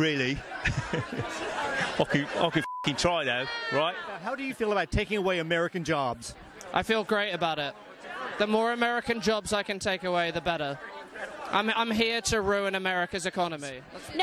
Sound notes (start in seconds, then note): 2.0 chuckles